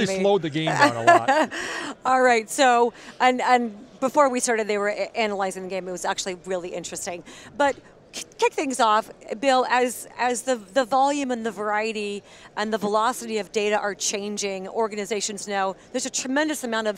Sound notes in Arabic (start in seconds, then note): 0.6 ضحك